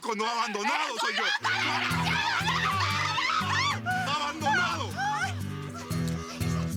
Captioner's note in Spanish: Gritos y exclamaciones